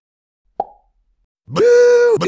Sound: pop

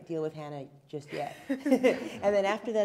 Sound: laughing

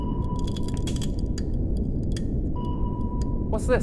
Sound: sound of carbon fiber cracking

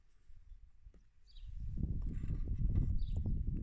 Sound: wind and birdsong. the snip of the scissors intermittently

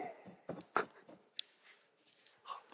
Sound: laughs

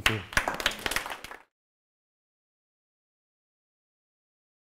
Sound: audience applauds

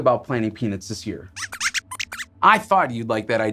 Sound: squeaks squeaks

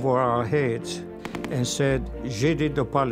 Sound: speaking Polish

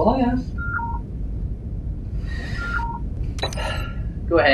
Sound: comm Alert

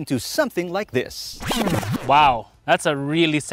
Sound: sound glitch

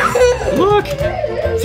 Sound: child laughing

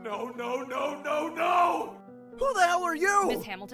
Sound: In Andy’s voice

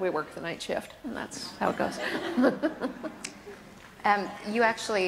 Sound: laughs

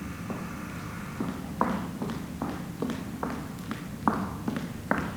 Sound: foot steps approaching

